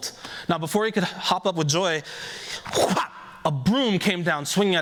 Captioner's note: whack